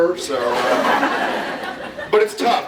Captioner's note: laughs